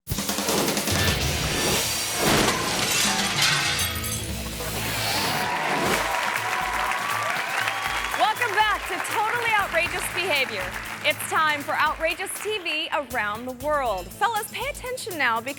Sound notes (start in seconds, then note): 0.1 upbeat music; 5.1 audience applauding and cheering